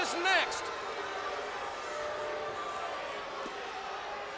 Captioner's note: crowd booing